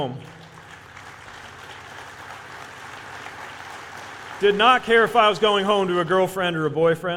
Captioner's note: applause